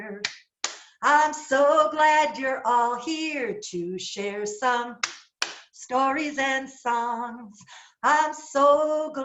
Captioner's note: clap clap